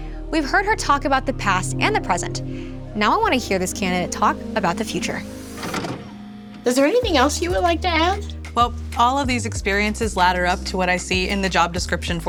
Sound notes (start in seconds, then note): 5.4 videotape plays